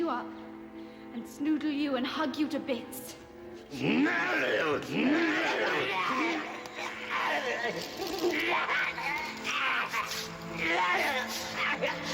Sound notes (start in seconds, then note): 4.3 grunting; 8.2 screaming